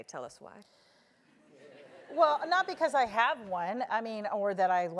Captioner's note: laugh